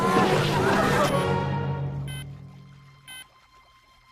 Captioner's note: beeping